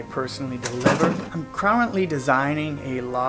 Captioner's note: door slam